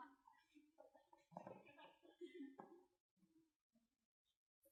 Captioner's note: giggling